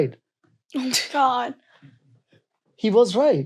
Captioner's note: child chuckling